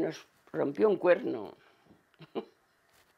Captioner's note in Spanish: Ríe